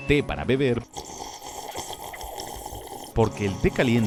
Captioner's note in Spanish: sonidos de sorbido fuertes